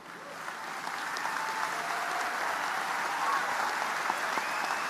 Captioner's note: audience applauding